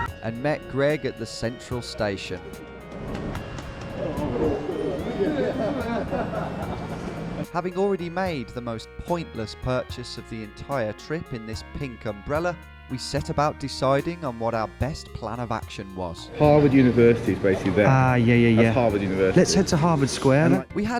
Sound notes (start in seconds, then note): 0.0 sirens blaring; 4.1 chattering